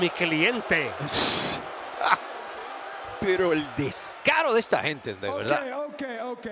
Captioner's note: laugh